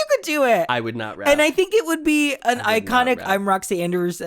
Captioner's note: quietly